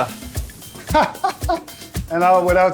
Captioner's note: laughing